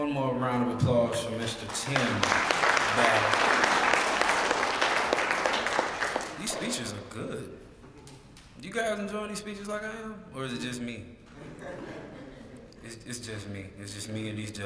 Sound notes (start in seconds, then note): 1.4 applause; 11.3 laugh